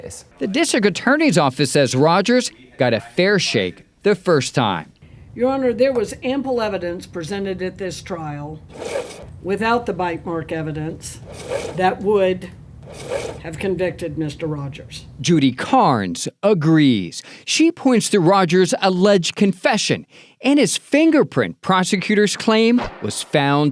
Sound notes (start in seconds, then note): 8.6 slides scraping